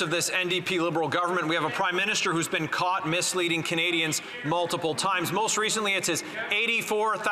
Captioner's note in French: voix de l'interprète